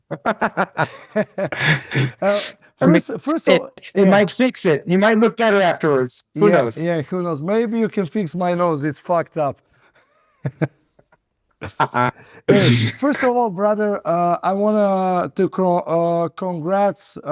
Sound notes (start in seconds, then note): 9.9 laughing